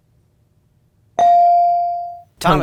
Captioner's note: ding chimes